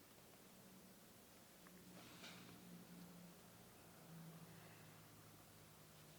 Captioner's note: none